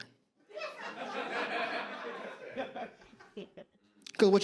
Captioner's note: audience laughs